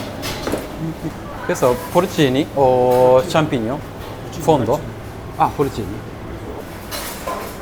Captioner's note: Italian